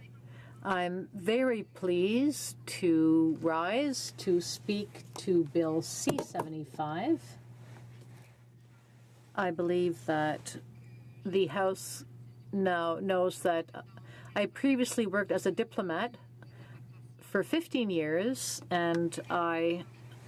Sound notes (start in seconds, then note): 1.6 speaking French